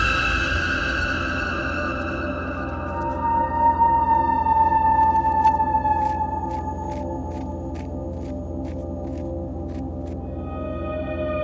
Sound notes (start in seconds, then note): 3.1 creepy music continues; 5.4 dirt pattering